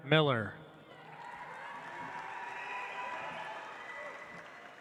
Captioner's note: audience applauds